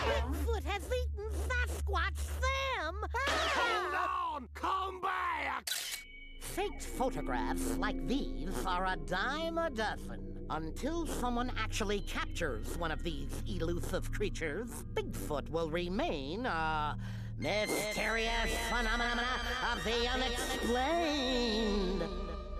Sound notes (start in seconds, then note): 5.4 camera clicks